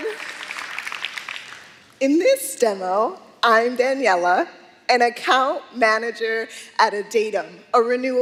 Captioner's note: applause